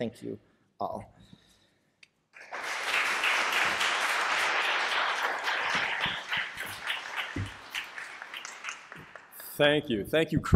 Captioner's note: applause